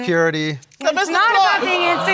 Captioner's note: audience exclaiming